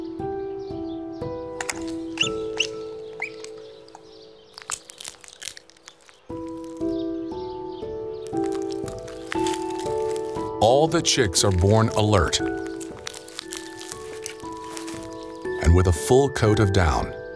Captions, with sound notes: (duck chirping) All the chicks are born alert, and with a full coat of down.